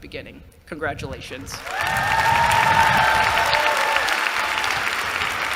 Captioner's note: cheering